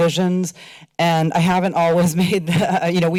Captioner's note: laughter